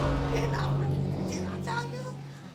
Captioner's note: audience exclaiming